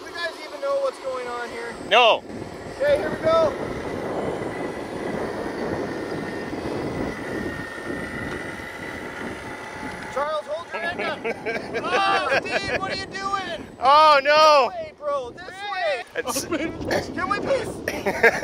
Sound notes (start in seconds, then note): 5.1 wind howling; 6.6 machinery engine revs; 10.6 crew member laughs; 16.4 crew chattering; 17.7 crew member laughs